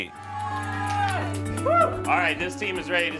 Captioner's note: cheering